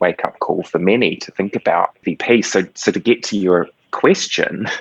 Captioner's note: laughs